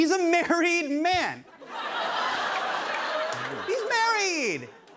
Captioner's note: laughter